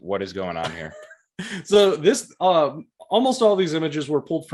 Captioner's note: laughing